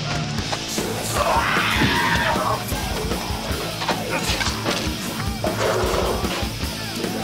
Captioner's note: people grunting; upbeat music